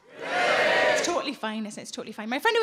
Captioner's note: audience cheers